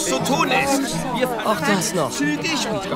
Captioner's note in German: Stimmengewirr